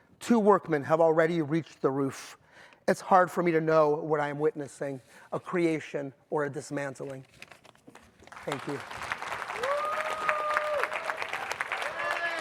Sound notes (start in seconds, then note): 8.2 audience applauding; 9.4 audience whooping